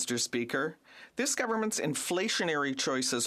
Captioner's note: speaking French